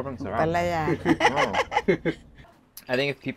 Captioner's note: laughs